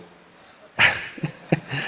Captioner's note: laughter